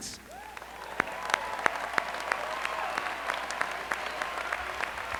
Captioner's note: applause